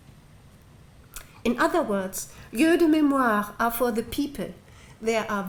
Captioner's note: french